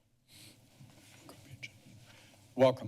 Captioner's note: whispering